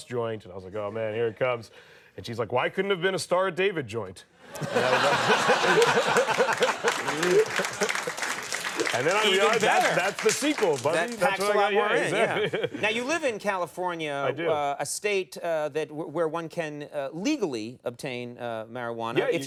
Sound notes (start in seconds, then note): 4.4 audience laughing